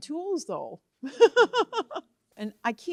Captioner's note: laughs